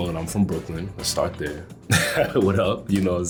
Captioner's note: laughs